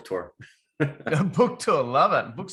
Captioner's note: chuckles